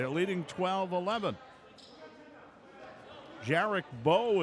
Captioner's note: yelling